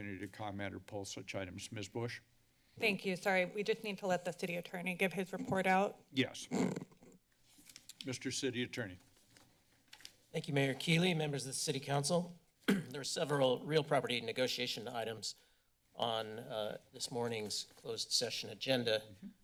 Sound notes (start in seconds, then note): 6.4 mic squeaks; 12.6 clears throat